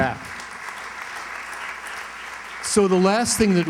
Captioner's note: applause